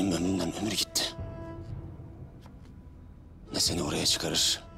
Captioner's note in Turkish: Takırtı Sesleri